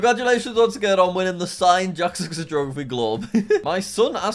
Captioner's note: chuckles